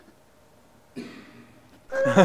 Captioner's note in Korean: 콜록